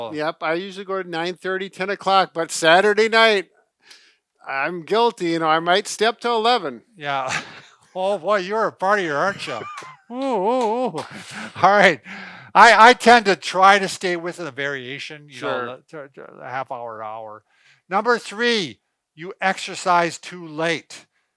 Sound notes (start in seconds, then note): 10.6 claps